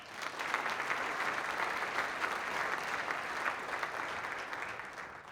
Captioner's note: applause